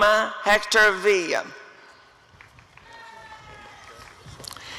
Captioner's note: applause and cheering